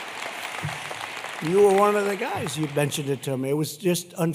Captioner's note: applause